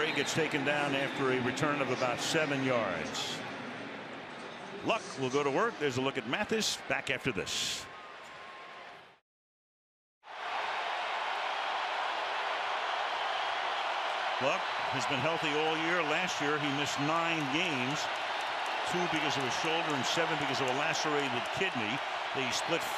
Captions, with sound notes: And Bray gets taken down after a return of about 7 yards. Luck will go to work. There's a look at Mathis. Back after this. [crowd cheering] Luck has been healthy all year. Last year, he missed nine games. Two because of a shoulder. And seven because of a lacerated kidney.